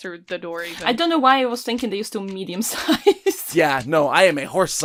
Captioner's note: laughs